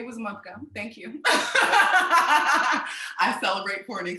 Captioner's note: all laughing